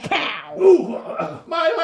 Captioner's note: grunting